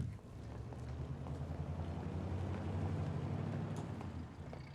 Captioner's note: car departing